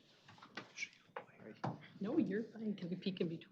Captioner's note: indistinct chatter